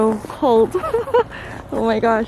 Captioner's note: chuckle